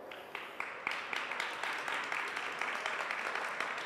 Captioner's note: audience applauds